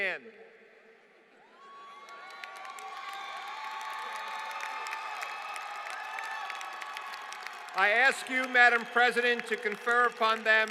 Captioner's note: applause